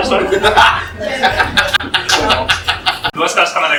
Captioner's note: laughs